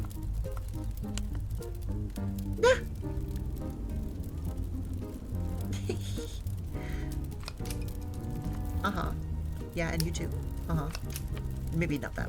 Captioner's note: giggles